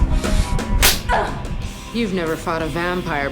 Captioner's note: grunting